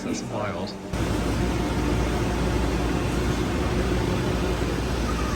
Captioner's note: machines whirring